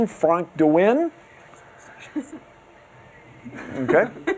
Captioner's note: laughter